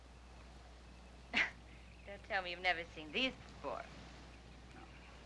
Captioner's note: chuckles